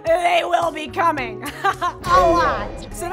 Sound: laughs

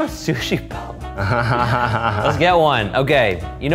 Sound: laughing

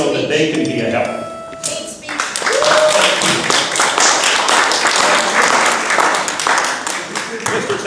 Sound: applause

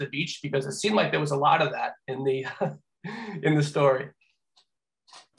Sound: laughs

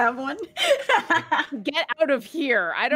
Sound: continues laughing; laughs

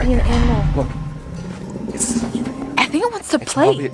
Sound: animalistic growling

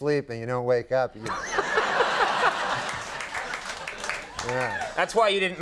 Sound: Conan and audience laugh

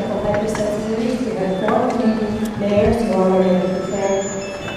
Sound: cell phone chiming

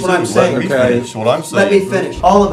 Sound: voiceover

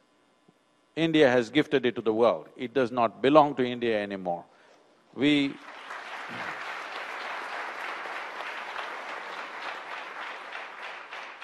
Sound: applause

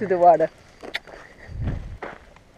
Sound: kiss sound

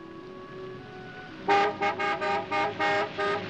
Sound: honking

